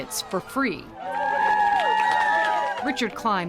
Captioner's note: cheering